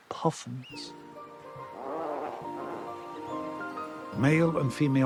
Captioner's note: grunting